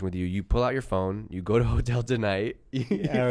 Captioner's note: laughs